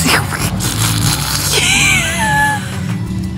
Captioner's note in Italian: risata